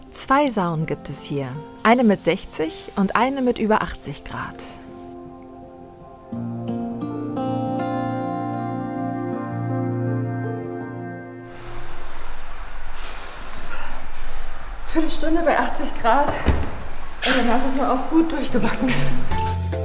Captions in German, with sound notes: 2 Saunen gibt es hier. Eine mit 60°C und eine mit über 80°C. *Sie atmet angestrengt.* Viertelstunde bei 80°C, danach ist man gut durchgebacken.